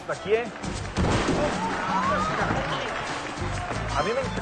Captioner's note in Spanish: Exclamaciones